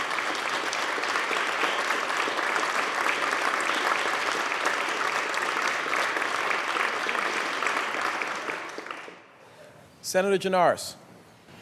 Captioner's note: applause